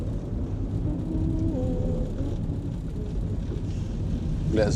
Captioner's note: Elisa continues humming